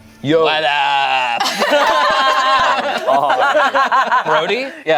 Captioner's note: group laughs